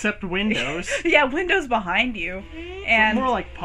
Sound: laughs

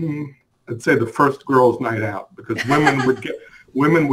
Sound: laughs

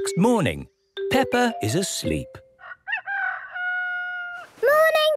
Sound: cock-a-doodle-doo

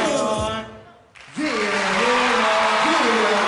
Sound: crowd cheering

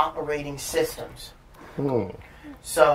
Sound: sounds of agreement

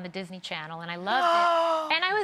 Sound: gasps

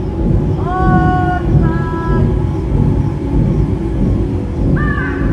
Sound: person shouting; ominous music

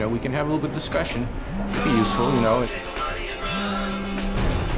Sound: phone buzzes

